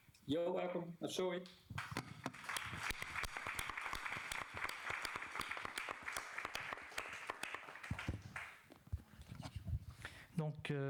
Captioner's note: applause